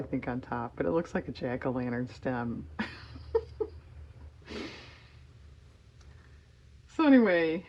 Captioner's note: laughs